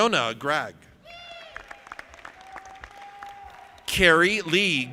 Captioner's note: audience applauding